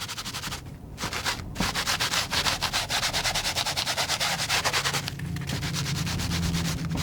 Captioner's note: scratching